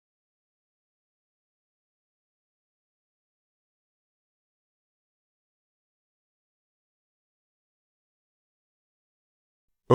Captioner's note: silence